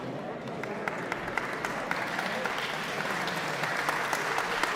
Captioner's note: audience applauds